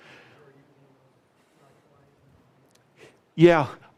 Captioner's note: man speaks faintly